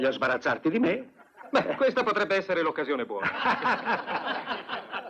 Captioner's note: all laugh